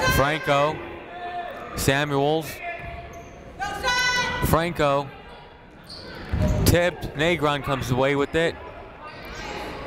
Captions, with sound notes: Franco. Samuel. (people shouting in the crowd) Franco. Tipped. Negron comes away with it.